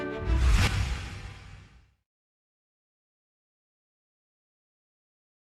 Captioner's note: whoosh